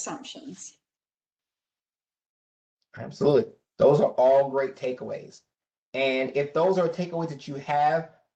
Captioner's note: professor speaking